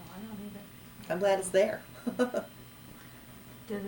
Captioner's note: laughs